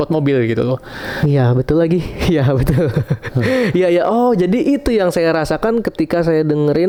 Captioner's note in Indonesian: tertawa